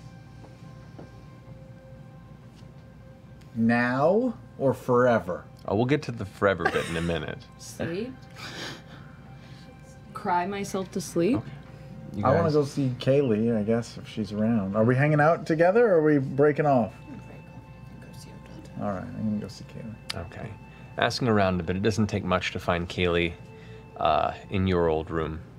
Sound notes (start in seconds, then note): 17.7 quietly